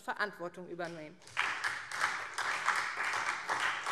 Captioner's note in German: Beifall SPD